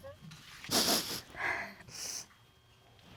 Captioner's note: sniffling